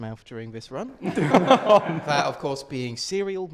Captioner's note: laughter